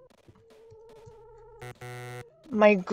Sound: Sonic 3 menu error sound

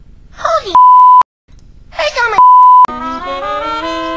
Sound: beep; beep

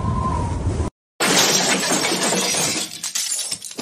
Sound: crash!

